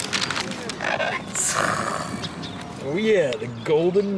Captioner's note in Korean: 단전에서 나오는 효과음